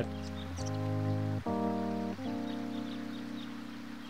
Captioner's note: birds chirping